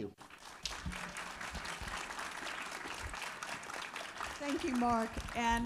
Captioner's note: audience applauding